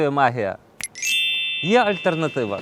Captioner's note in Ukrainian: Магічний звук